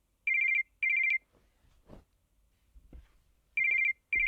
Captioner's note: phone ringing